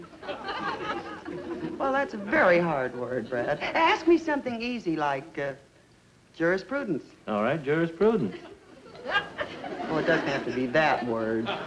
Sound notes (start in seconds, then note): 0.0 audience laughs; 8.3 audience laughs